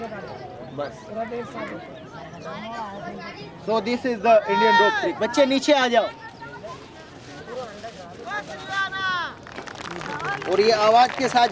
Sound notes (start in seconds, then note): 5.0 non-english speech; 9.3 applause; 11.3 non-english speech